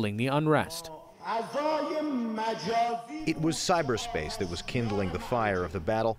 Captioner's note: through translator